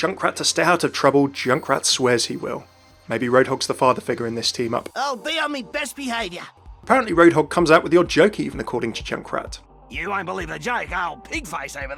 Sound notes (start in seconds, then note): 0.0 voiceover; 7.0 voiceover